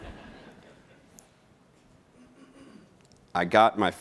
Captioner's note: laughing